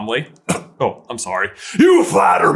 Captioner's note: cough